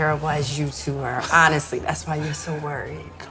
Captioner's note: Mr. Monroe laughing